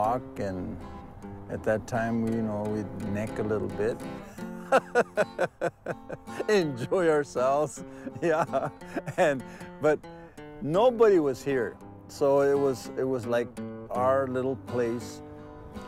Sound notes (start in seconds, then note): 4.2 laughs